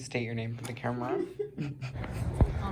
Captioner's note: laughter